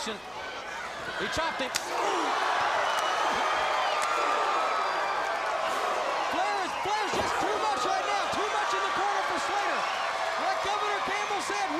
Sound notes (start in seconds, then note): 3.2 crowd cheering